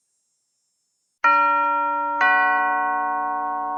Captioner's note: doorbell ringing